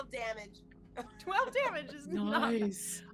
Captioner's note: laughing